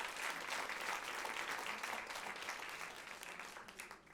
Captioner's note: applause